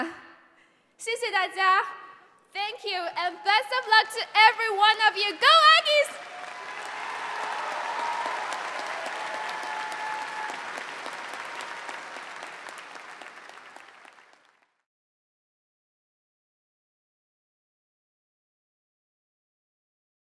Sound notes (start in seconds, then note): 8.5 applause